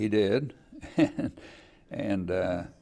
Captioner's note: laughing